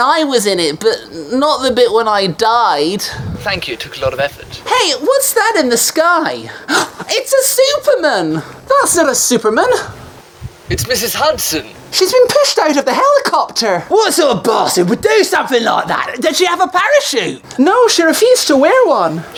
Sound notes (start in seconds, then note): 6.4 gasps